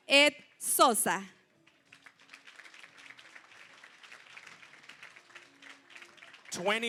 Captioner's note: applause